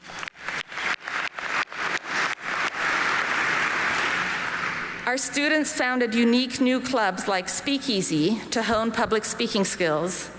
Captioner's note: applause